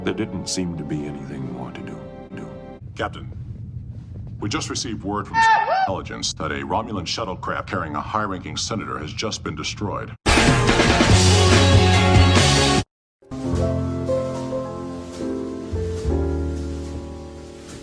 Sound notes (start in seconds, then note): 5.3 goofy yell